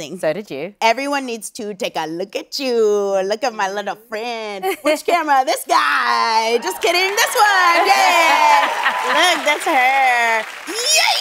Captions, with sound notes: Everyone needs to take a look at you. Look at my little friend! Which camera? This guy! Just kidding, this one! Yeah! [cheering and applause] Look, that's her! Yay!